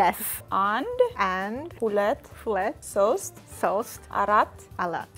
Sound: both counting in Amharic

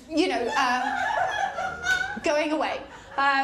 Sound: laughter

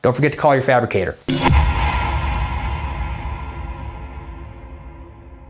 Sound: logo whooshing

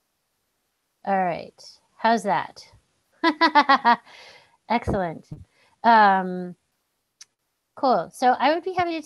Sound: laughing

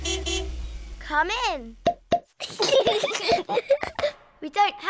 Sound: horn honks; both giggling

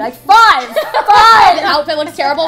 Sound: laughter

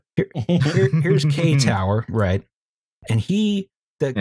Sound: chuckles

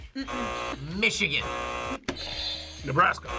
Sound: buzzer rings; buzzer

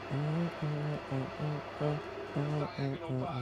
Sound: humming

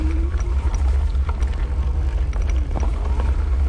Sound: squeaks

